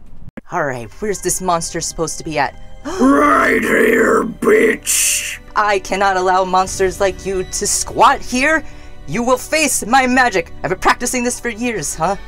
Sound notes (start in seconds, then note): 1.7 light suspenseful music; 3.2 deep, gravelly voice